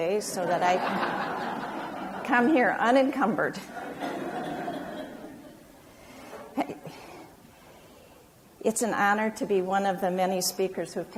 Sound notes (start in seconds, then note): 3.6 audience laughs